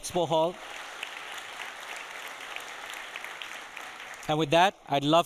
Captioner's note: audience applauding